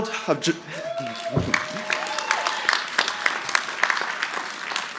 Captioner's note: audience applauding